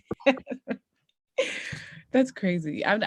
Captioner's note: laughing